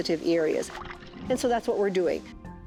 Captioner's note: water splashes